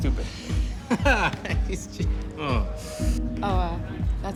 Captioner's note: laughs